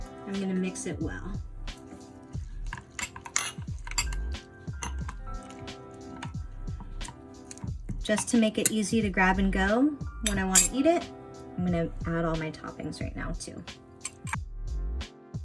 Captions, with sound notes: I'm going to mix it well. [spoon clangs against glass] Just to make it easy to grab and go when I want to eat it, I'm going to add all my toppings right now.